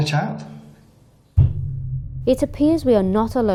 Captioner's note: thudding sound